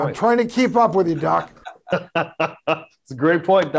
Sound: doctors laughing

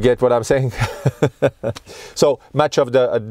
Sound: laughing

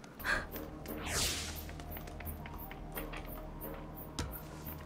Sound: the footsteops downstairs

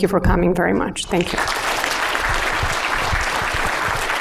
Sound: applause

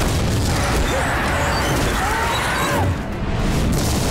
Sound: grunting

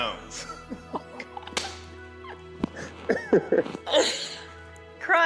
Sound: both laughing

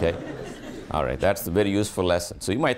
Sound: students laughing

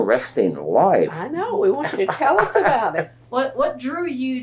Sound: laughter

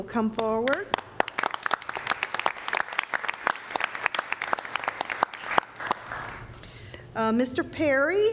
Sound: applause

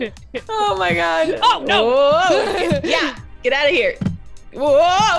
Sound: laugh

